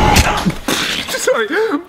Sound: punch; spit

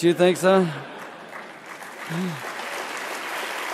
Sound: applause

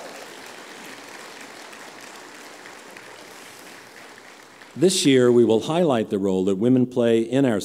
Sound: applause

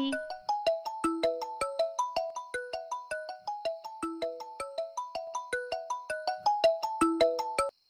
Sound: phone ringing

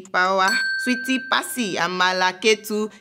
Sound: bell dings

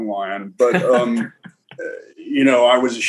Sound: chuckles

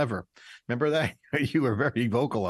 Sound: laughing

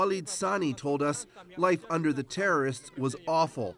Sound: speaking foreign language

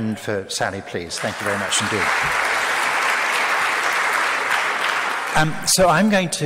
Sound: audience claps

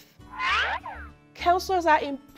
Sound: Acme siren whistling

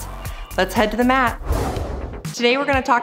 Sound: swoosh

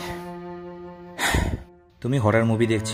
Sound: sighs

